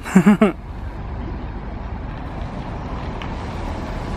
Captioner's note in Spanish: sonido ambiente del bus 'Premium'